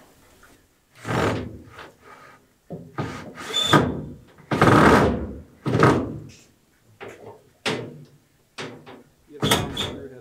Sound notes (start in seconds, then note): 0.9 drilling